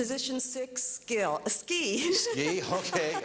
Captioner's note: laughing